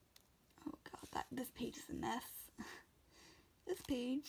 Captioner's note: laughs